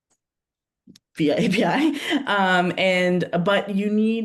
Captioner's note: chuckles